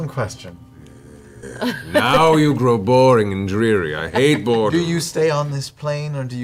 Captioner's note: exasperated noise